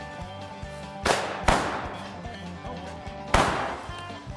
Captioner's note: booming